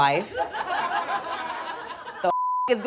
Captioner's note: audience laughs